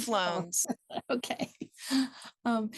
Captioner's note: laughs